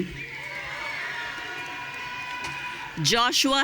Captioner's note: audience cheering